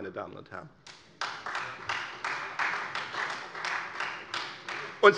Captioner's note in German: Beifall Freie Demokraten und vereinzelt SPD